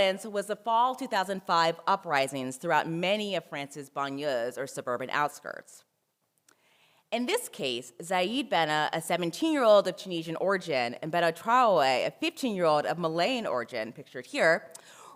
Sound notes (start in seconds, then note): 3.9 french